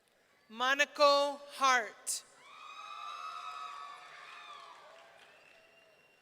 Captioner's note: audience cheering